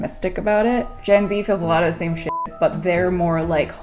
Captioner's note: beep